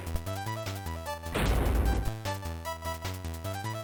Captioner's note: thud